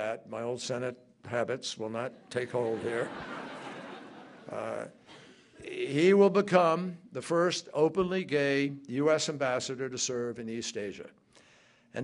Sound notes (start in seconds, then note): 2.4 laughter